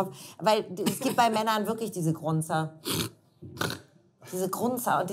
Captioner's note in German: Grunz